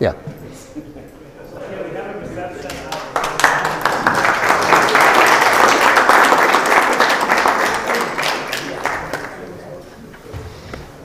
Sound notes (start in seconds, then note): 2.6 applause